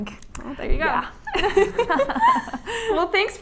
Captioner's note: laughter